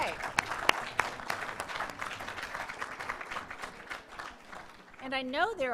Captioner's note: applause